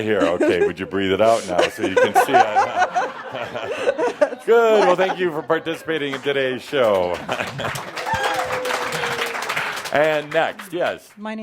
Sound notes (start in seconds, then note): 4.6 she’s giggling; 5.8 some applause